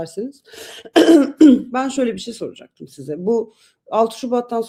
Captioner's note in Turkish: boğazını temizler